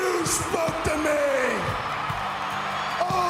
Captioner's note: cheers & applause